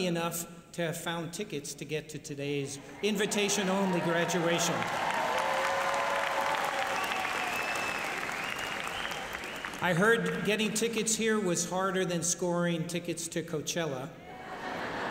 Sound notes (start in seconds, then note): 3.2 applause